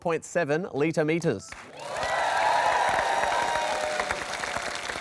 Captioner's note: applause